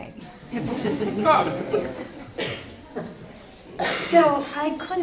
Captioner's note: audience laughing